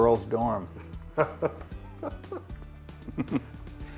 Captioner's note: laughter